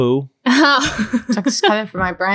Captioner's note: laughing